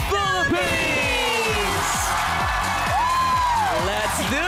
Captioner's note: loud cheering, clapping